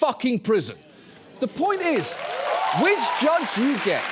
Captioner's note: audience cheers, applauds